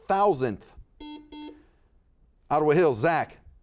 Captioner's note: buzzer beeping